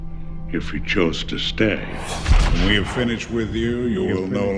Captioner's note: echo; hit/swoosh